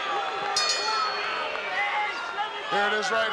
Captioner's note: bell rings